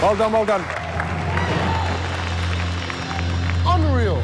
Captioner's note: cheers and applause